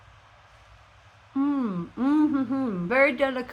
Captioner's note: happy mouth noises